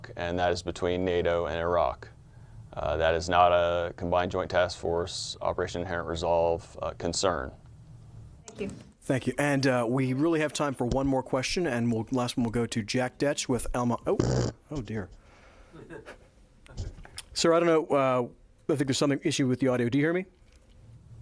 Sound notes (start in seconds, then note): 15.7 people chuckling